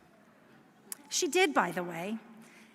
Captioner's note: none